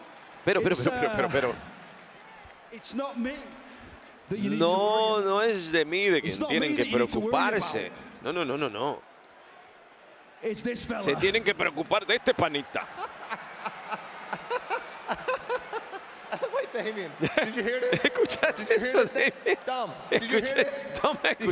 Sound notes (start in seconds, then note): 12.6 laugh